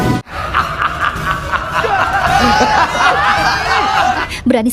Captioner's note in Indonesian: tertawa